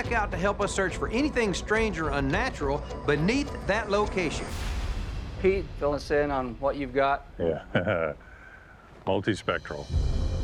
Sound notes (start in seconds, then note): 7.5 chuckles